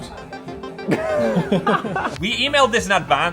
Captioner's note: both laughing